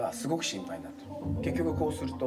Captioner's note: speaking in foreign language